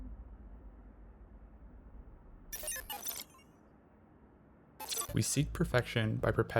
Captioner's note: glitch sounds